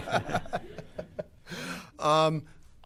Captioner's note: laughter